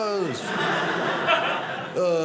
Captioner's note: audience laughing